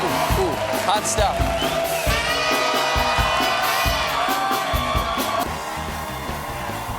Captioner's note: applause